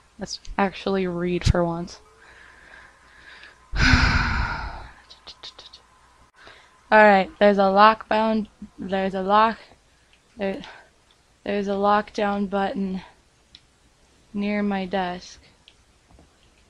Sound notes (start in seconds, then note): 2.0 sighs